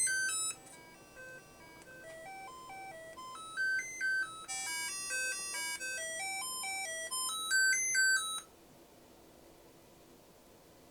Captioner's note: beep beep boop boop